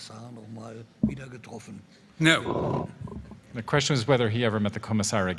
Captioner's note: whispering